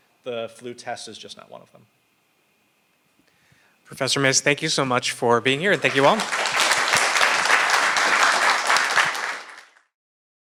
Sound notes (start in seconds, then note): 5.6 audience applauds